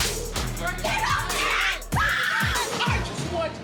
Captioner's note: horse neighs; screams